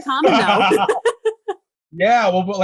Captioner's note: laughing